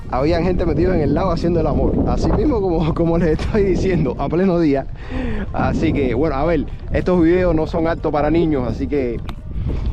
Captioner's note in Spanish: risas